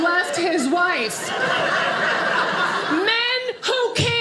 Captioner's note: audience laughing